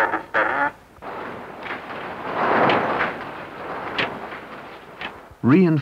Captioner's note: printer thrashing